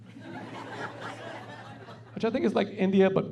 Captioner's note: laughing